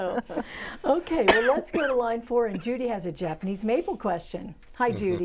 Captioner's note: laughing